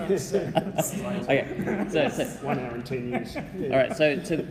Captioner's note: laughing